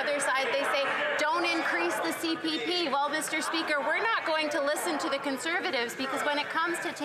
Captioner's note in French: voix de l'interprète